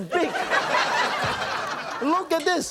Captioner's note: laughter